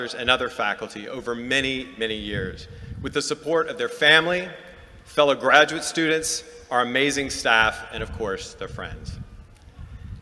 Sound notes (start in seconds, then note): none